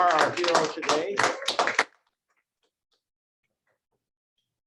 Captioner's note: applause